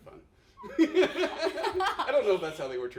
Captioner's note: laughs